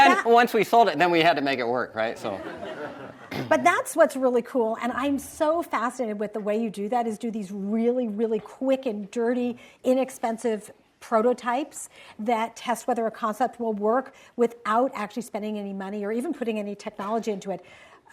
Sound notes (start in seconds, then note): 0.0 audience laughs; 2.3 audience chuckles